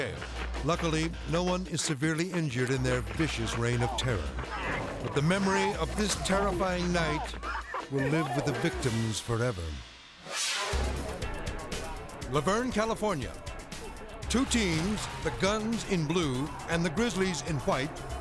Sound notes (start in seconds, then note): 10.1 graphics whoosh; 10.2 upbeat music